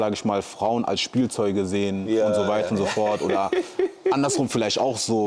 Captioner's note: gelächter